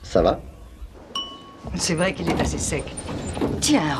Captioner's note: dings